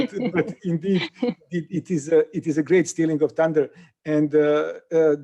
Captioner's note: laughter